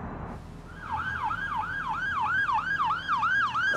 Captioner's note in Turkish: Ambulans sireni çalıyor